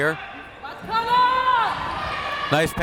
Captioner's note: crowd members shouting